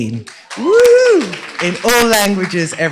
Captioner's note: cheers, applause